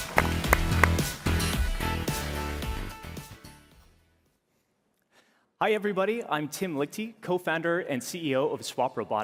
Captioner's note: applause